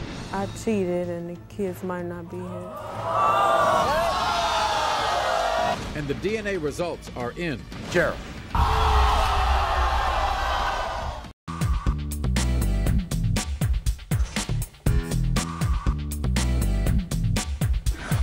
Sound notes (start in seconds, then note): 2.6 audience boos; 8.4 audience gasps